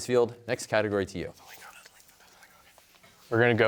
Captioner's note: team whispering